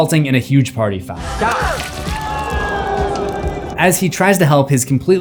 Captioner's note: crowd reacts